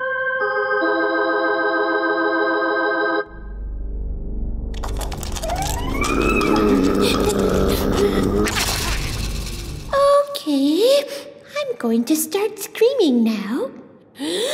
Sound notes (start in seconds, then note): 0.0 dramatic organ music; 4.8 ominous animal noises; 14.2 takes a deep breath and screams